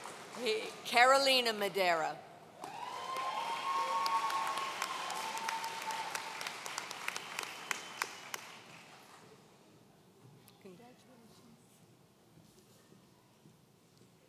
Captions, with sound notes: Carolina Madera. (audience cheering)